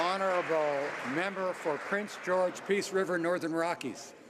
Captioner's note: some Applause